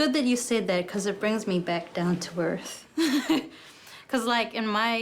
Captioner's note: laughs